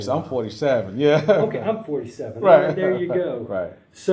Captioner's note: laugh